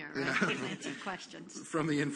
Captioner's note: laughter